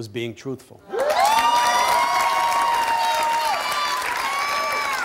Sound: audience applauding

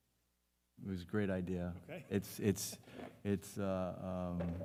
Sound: laughs

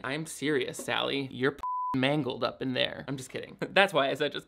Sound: beep

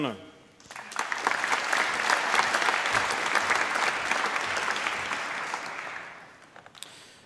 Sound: applause

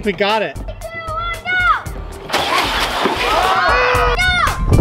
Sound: engine revving; group groaning

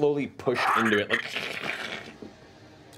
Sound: static crackling

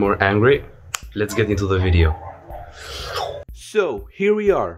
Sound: swoosh

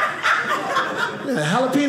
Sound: audience laughing

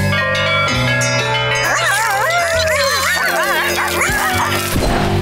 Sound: cheering

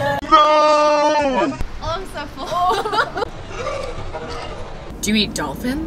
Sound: laughing

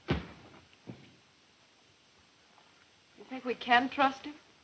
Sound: heavy loud footsteps

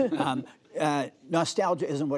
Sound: laughter

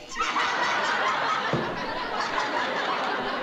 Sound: laughter

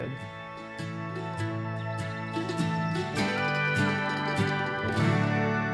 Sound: birds chirping; upbeat music

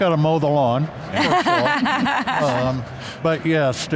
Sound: laughs

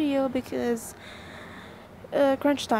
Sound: i n h a l e

